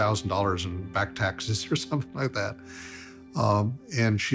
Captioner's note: chuckling